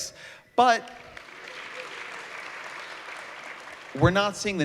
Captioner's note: applause